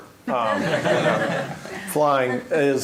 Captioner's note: laughter